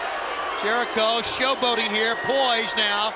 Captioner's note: crowd cheering